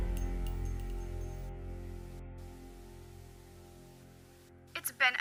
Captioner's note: metallic clanking; static buzzing